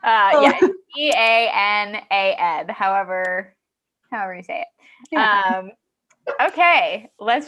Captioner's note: laughing